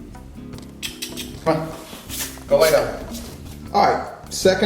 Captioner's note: clicks tongue